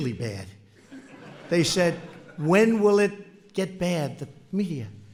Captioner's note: laughter